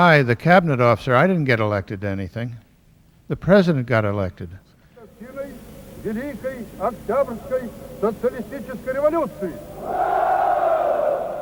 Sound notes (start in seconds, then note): 4.6 speaking Russian, soldiers responding